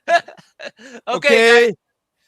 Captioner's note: laughter